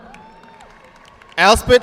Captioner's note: audience clapping